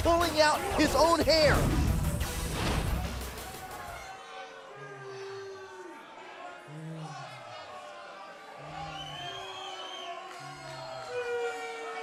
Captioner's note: crowd chatter